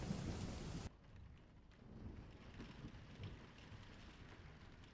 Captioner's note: rain pattering